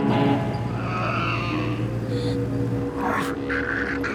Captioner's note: Riley growling